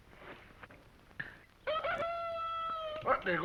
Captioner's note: rooster crows